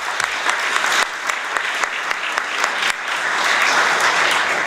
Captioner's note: applause